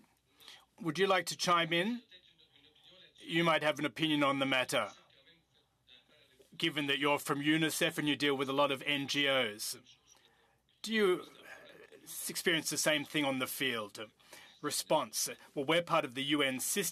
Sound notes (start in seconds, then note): 1.8 speaking French